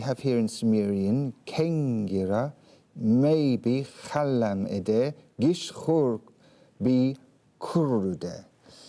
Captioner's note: hablando en sumerio